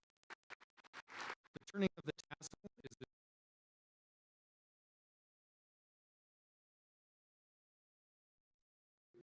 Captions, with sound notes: - The turning of the tassel is the (audio cuts out).